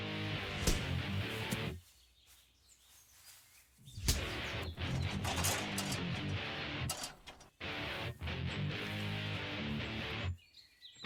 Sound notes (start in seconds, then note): 4.1 metal clancking